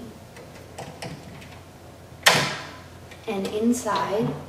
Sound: clicking sound made by the door of clock case unlocking

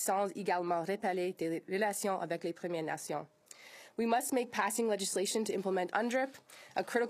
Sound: speaking in French

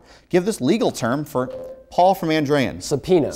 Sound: beeping

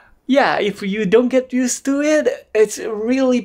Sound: none

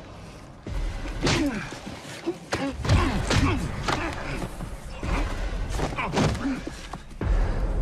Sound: grunting

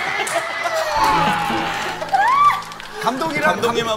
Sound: endless medley of shrieks

